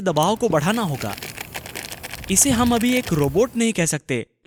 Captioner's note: object rustling; air hissing